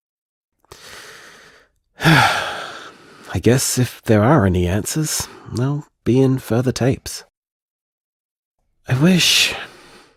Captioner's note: sigh